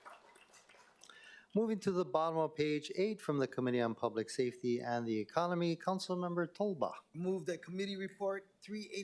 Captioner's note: applause